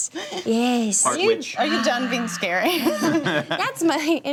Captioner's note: laughs